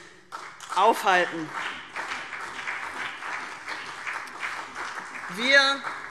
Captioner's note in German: Beifall CDU und BÜNDNIS 90/DIE GRÜNEN